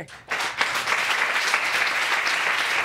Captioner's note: audience clapping